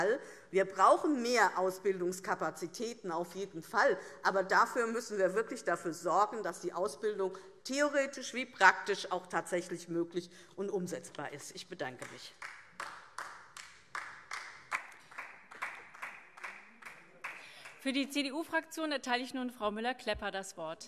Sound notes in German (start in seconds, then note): 11.9 Beifall DIE LINKE